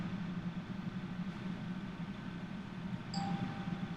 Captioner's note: phone dinging